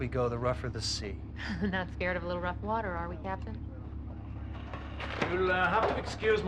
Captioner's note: chuckles